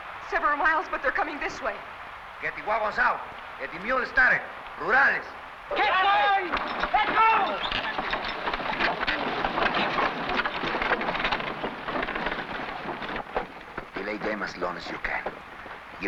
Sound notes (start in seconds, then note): 8.7 carts rattling; 8.7 objects clattering